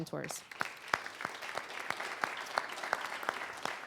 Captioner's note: applause